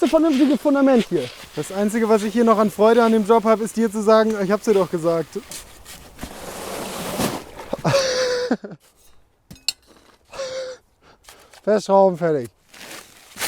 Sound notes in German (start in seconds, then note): 7.7 Lachen